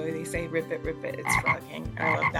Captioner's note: frog croak